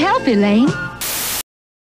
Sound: static

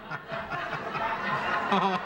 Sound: laughter

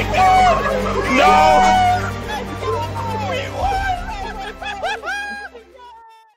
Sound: more celebrating

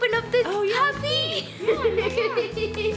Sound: laughs

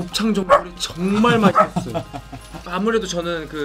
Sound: puppy barks; laughs

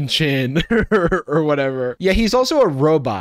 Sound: chuckles

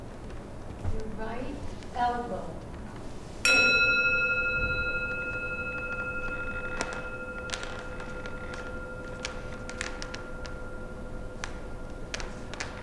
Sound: gong

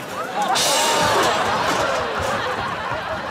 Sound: clatters

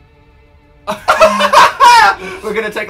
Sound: laugh

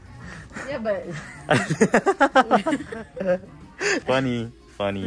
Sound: both laughing

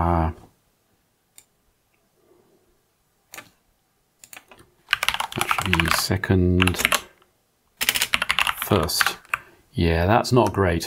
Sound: blank Audio

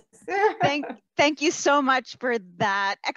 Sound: laughs

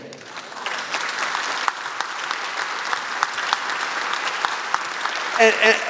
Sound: applause

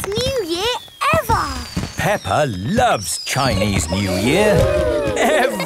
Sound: exclamations

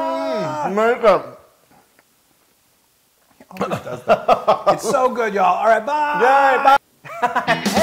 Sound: laugh

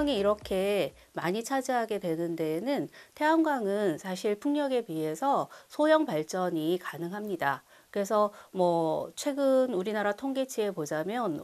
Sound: voiceover

